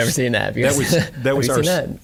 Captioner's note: laughing